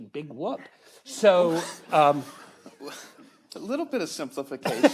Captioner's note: audience laughs